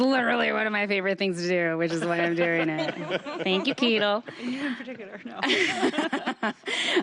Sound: laughter

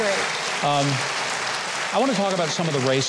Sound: audience applauds

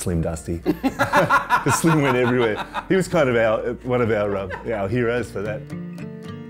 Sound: laughs

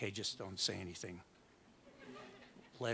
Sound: audience laughs

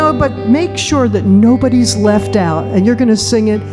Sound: none

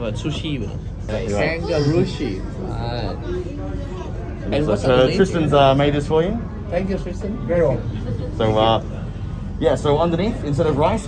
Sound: chitchatting

